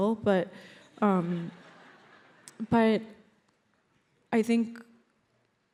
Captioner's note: audience laughs